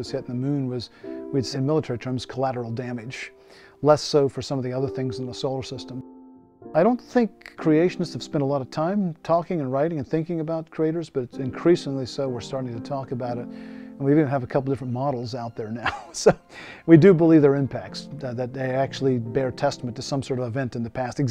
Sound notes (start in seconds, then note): 15.8 chuckles